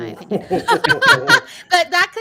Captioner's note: laughing